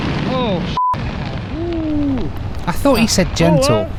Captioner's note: beep